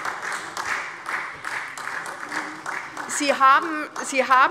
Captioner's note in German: Beifall SPD